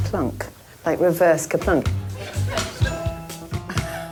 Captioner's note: applause